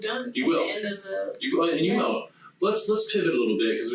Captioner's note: group chattering